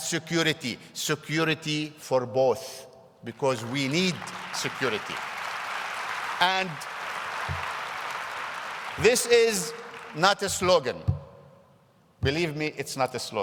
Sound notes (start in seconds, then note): 6.4 applause